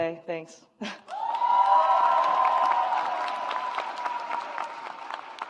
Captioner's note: audience applauds